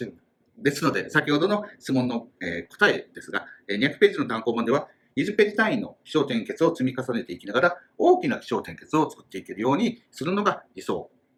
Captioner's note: speaking Japanese